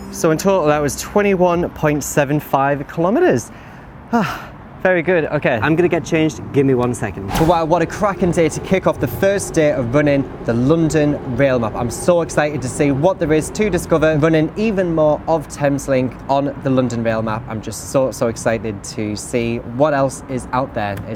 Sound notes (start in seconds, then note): 4.2 sigh